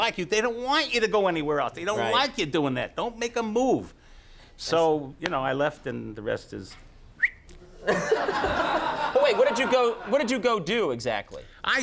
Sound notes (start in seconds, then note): 7.1 whistles; 7.8 Conan laughs